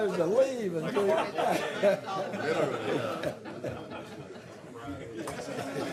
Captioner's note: laughter